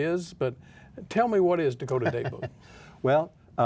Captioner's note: laughs